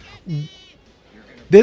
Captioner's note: laughs